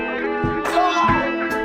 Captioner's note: thwack